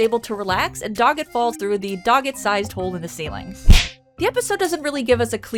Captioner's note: smack